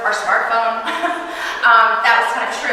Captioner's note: chuckling